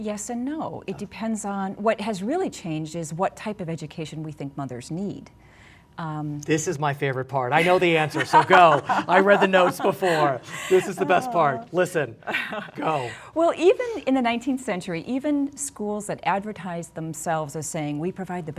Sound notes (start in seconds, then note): 12.2 laughing